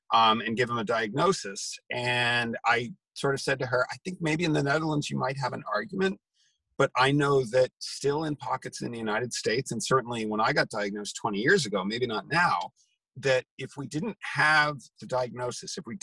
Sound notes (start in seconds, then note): none